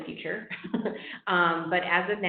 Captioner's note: laughing